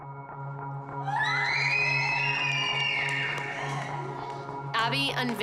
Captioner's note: screaming